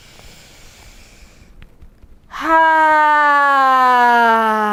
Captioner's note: inhaling and sighing